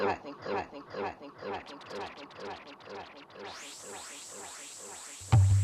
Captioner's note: echoes; tapping and drumming beat